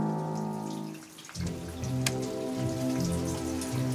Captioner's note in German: Plätschern, ruhige Musik